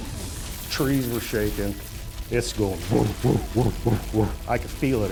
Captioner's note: mimics creature